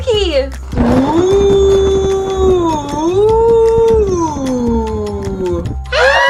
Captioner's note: thunder clap; spooky voice